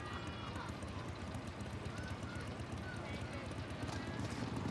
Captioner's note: motorcycle engine revving